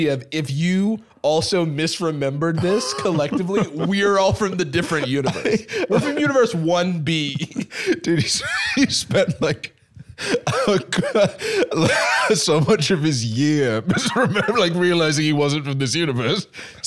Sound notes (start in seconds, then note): 7.2 laughing